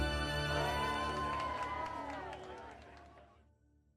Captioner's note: cheering